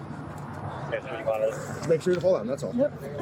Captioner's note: radio chatter